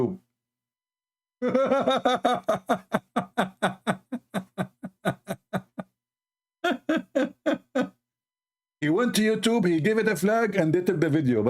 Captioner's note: Ketawa